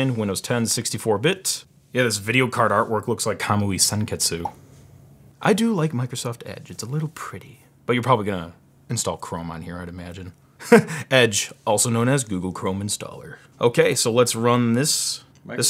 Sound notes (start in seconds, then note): 10.6 laughs